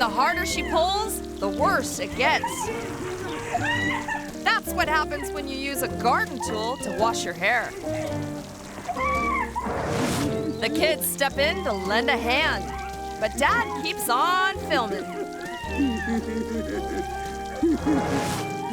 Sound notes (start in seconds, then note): 9.0 woman screaming; 15.4 man laughing